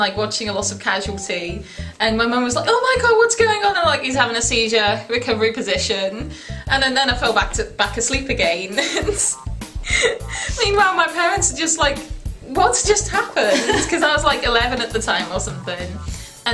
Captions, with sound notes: watching a lot of casualty & my mum was like "Oh my god, what's going on?!" I'm like "he's having a seizure, recovery position." And then I fell back asleep again! *laughing* Meanwhile my parents are like, what just happened?! And I was like 11 at the time or something.